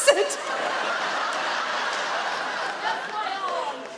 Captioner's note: audience laugh